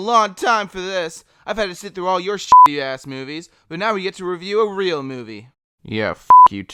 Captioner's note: beep